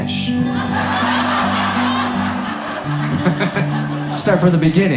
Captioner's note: audience laughs